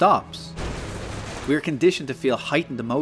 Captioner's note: splashing mud